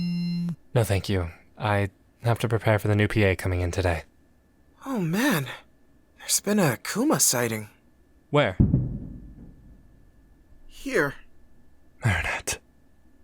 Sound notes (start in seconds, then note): 0.0 phone buzzes; 8.6 crash